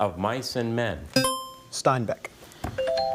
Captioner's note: buzzer chimes